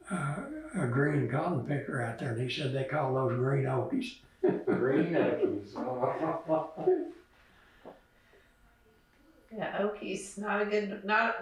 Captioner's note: laughs